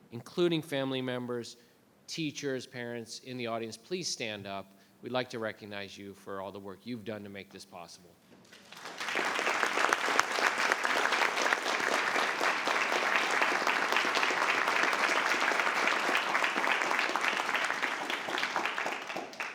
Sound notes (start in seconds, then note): 8.7 applause